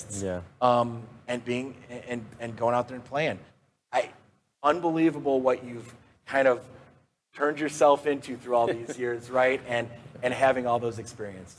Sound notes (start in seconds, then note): 8.6 laughs